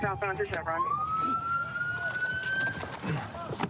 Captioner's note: sirens